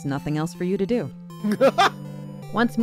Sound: laughter

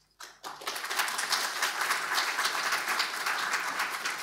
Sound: audience applauding

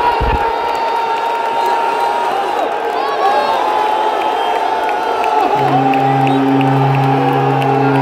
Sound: clap

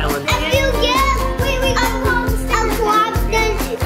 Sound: babbling

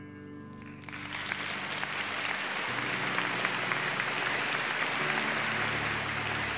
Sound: audience applauding, gentle music fading

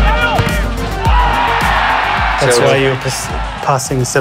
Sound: people cheers

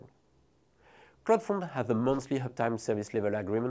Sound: text whooshing

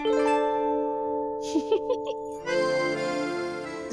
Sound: laughing

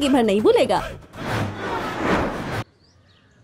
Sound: traffic noises

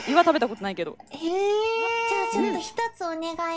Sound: laughing

